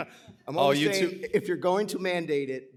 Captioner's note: laughs